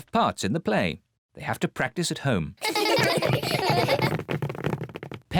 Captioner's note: children laughing